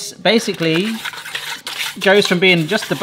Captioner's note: paper scraping